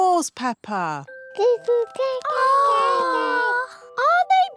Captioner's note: babies gurgle